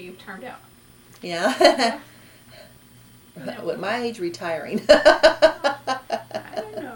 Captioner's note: laughs